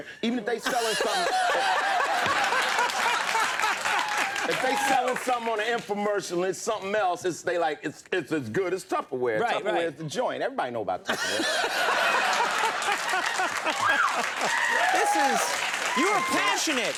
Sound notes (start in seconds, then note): 0.6 Conan laughing; 11.1 Conan and audience laughing